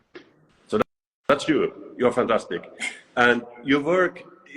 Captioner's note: laughs